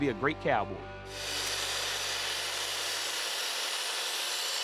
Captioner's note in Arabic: قطع المنشار